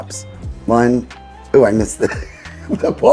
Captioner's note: laughing